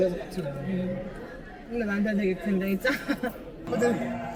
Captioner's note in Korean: 하하